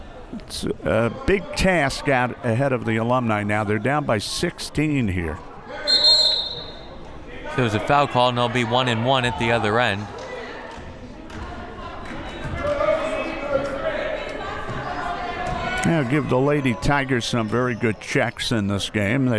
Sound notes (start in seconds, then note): 5.8 whistle